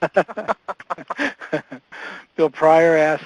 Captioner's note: laughter